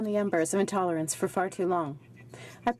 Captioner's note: speaking French